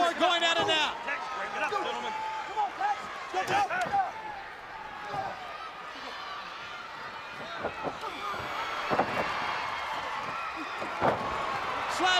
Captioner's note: crowd cheering